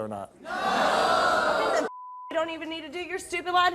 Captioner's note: beep